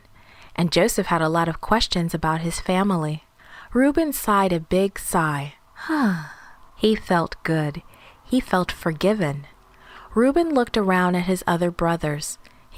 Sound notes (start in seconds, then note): 5.8 sigh